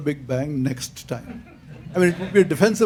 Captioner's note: laughter